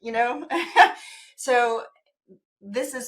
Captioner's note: chuckles